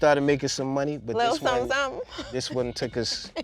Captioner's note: laughing